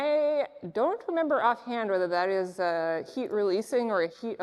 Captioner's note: none